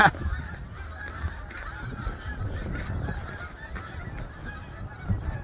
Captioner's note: sound of a flock of insistent geese in the distance